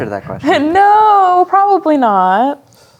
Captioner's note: chuckles